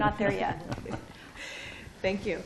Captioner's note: laughter